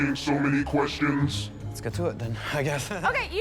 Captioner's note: chuckles